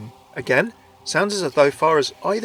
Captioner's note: voiceover